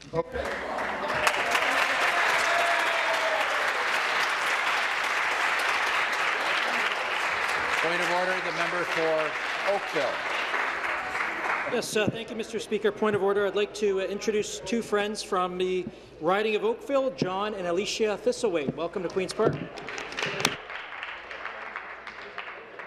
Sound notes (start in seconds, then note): 3.5 applause